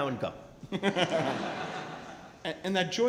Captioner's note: laughing